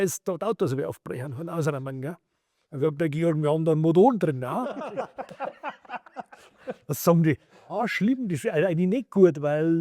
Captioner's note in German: gelächter